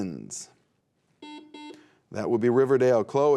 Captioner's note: buzzer beeping